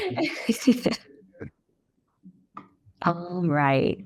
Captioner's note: laughter